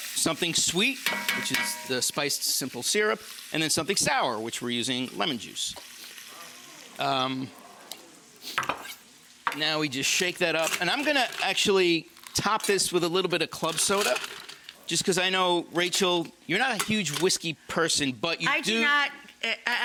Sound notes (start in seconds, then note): 6.3 audience exclaiming